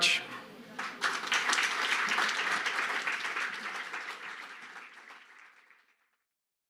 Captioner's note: audience applauding